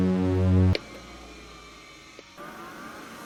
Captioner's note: computer rebooting